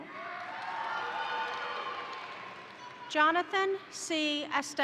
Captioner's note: crowd applauding; crowd cheering